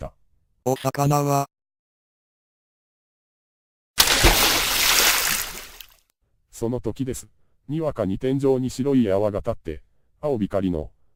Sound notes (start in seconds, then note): 4.0 splash! Large water sound